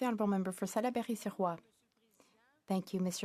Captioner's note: speaking FRENCH